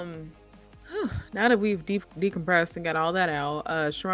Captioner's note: sighing